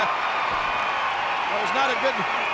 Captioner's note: audience cheering